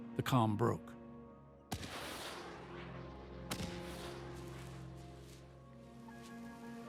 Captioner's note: artillery fire; bugles blaring